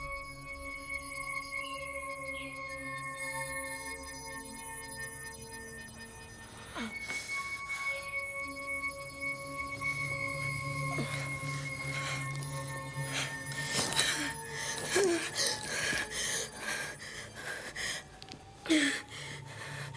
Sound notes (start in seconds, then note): 6.8 groaning; 14.1 panting